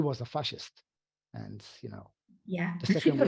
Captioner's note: chuckles